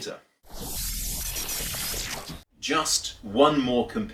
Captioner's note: electronic noises